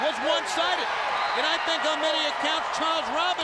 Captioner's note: audience cheering